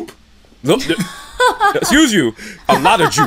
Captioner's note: laughter